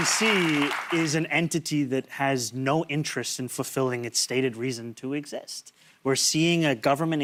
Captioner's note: applause